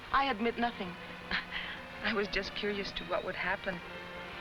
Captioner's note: chuckles